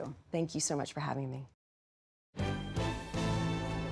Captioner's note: none